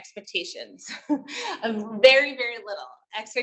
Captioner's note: laughs